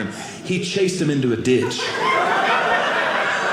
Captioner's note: audience laughing